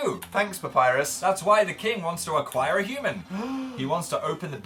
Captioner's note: gasps dramatically